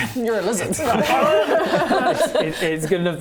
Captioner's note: speciesist laughter